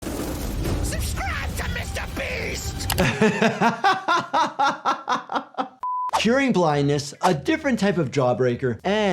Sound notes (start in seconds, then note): 0.0 metal grinding; 2.9 laughs